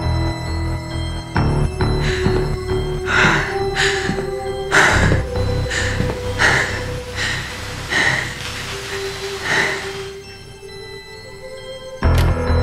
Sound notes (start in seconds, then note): 1.8 heavy breathing